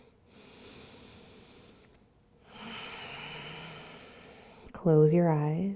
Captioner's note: breathes deeply